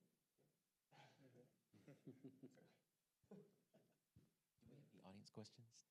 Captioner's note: panelists chuckling awkwardly